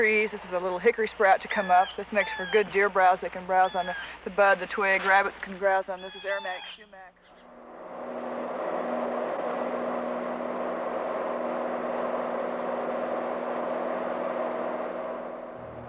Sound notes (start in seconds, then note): 9.9 airplane sounds